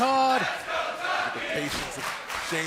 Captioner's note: fans chanting